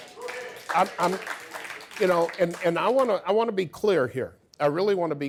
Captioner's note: audience applause